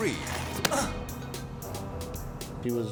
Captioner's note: man groaning; suspicious music